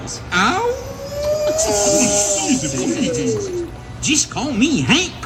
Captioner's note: howling and laughter